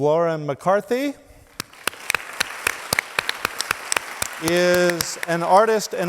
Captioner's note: audience applauds